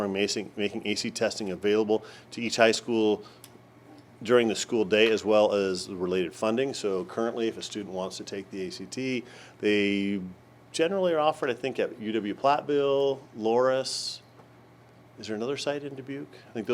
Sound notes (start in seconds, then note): none